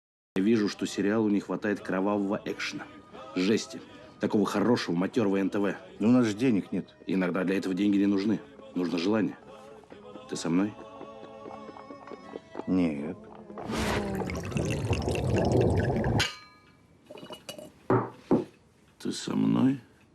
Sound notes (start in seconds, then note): 13.4 liquid pouring sound; 17.0 clinking glasses